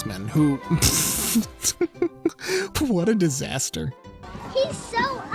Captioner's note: scoffing